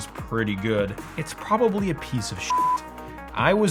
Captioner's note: beep